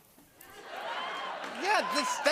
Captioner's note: laughter, cheering, and applause